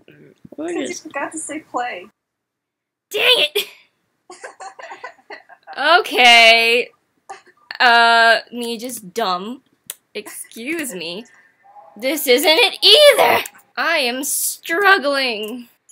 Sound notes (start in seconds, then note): 4.3 laughs